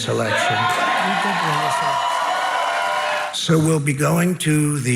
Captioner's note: crowd cheers